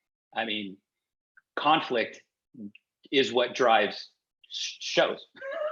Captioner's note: laughs